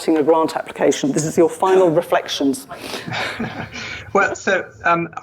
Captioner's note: laughs